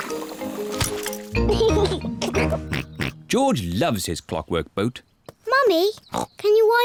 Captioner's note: giggles